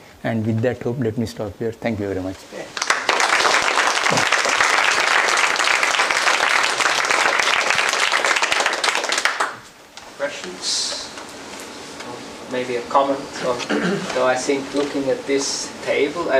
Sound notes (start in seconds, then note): 4.6 applause